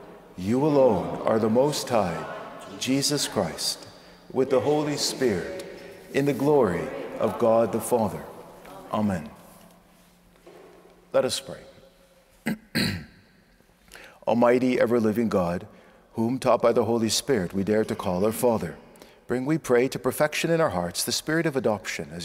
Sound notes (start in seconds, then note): 12.4 clearing throat